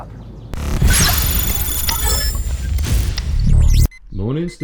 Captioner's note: electronic chiming